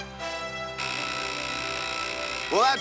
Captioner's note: buzzer